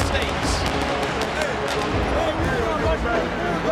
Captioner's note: crowd cheers